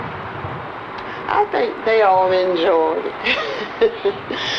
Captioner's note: laughing